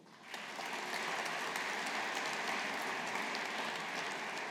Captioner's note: audience applauding